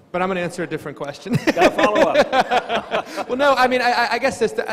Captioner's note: laughs